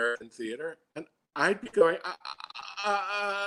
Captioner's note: grunting